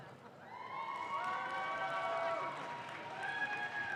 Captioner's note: audience claps